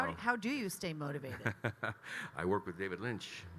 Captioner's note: Kyle laughing